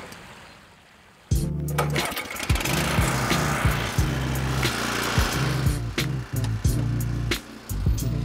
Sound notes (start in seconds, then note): 1.7 tiller engine whirring; 3.7 light music continues